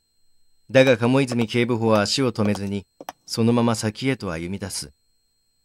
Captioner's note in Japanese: 足音：コツコツコツ